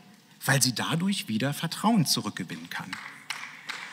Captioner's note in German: Beifall